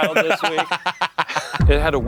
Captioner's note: laughing